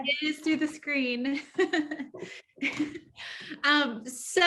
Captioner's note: chuckling